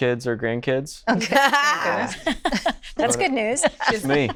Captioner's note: all laughing